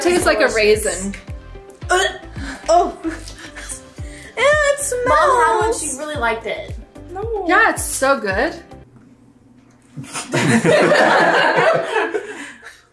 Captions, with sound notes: - I think it tastes like a raisin. - (gags) Oh, ew it smells. - Mum had one she really liked it. - No. - Not so good. (both laughing)